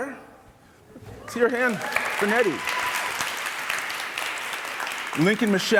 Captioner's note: audience applauding